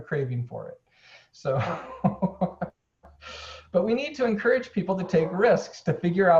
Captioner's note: laughing